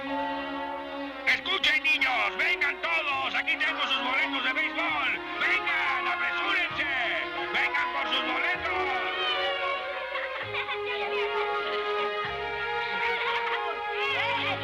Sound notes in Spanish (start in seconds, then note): 0.9 vociferando; 10.0 risas